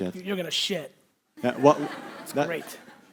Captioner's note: audience laughing